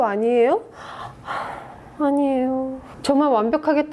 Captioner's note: mmm mmm shh